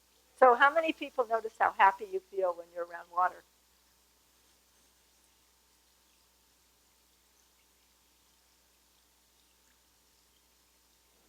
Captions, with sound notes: So how many people notice how happy you feel when you're around water? [TRICKLING WATER NOISE]